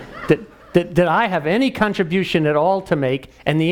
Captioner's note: laugh